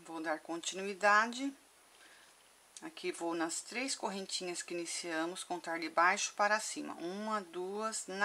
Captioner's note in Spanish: en español